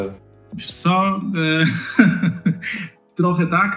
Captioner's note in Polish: śmiech